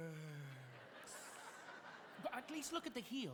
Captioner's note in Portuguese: audience laughing